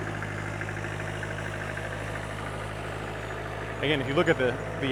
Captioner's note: engine rumbling